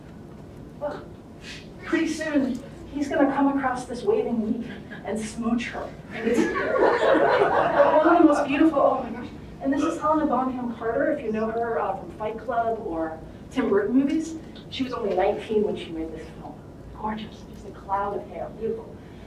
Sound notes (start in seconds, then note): 6.1 group laughter